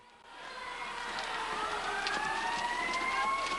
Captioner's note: alarms wailing